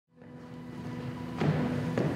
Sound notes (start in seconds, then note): 0.1 footsteps; 0.2 piano music